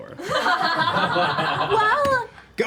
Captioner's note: laughter